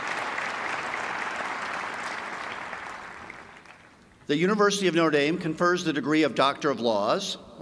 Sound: applause

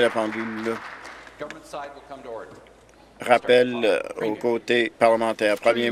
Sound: applause

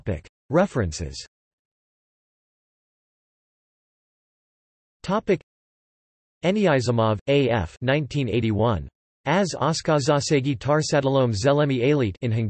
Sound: in Hungarian

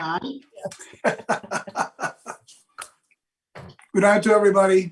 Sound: all laughs

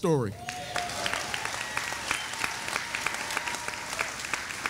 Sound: audience applauding

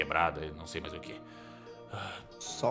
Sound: sighs

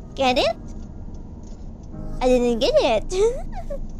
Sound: laughs

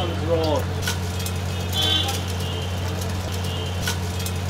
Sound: sizzling

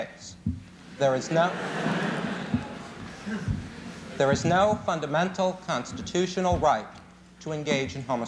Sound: laughter

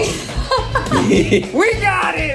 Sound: laughing

